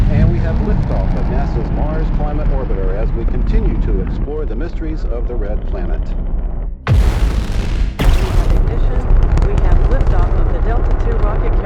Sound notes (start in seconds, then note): 6.8 rocket boosters blasting